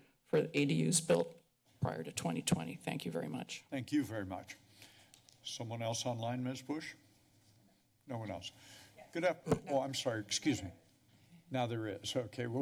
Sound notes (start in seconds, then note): 4.6 pause